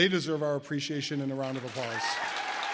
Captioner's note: audience applause